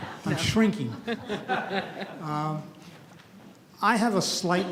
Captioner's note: audience laughs